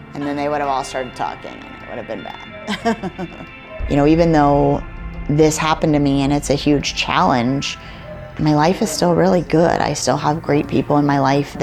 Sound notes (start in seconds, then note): 2.6 laughs